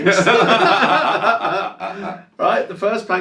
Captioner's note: both laugh